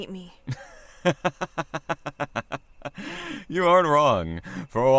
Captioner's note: laughs